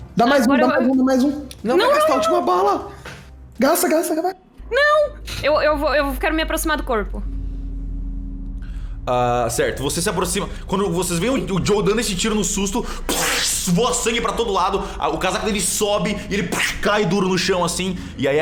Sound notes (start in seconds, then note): 13.0 psshh